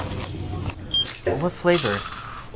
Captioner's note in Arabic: الماسح الضوئي يصدر صوتا